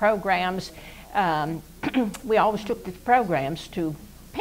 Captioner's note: coughs